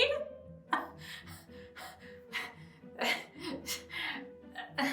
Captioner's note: breathing heavily